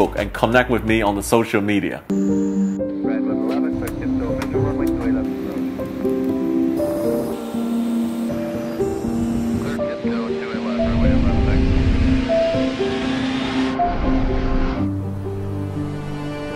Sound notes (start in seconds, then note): 2.5 uplifting music; 3.1 air traffic chatter